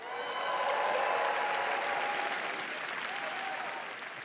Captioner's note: applause